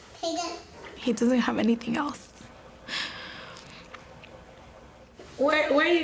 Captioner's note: breathes deeply